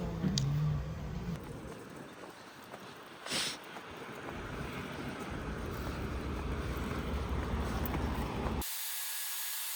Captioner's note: sniff